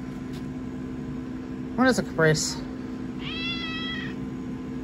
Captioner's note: Caprice meows